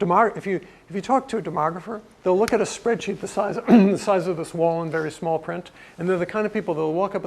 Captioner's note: cough